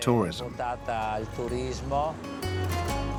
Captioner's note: Italian spoken audio